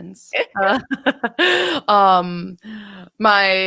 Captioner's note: women laughing